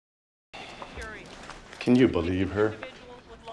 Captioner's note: chuckles